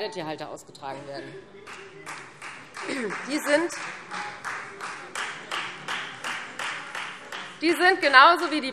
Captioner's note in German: Beifall Freie Demokraten